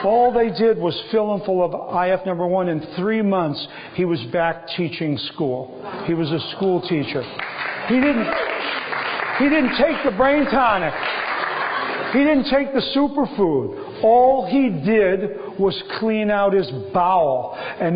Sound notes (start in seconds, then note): 7.2 applause